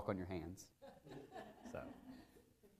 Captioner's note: laughter